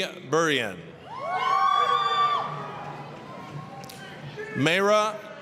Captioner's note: applause, cheering